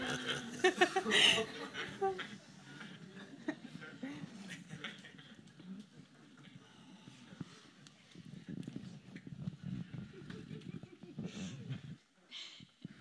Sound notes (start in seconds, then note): 2.8 silence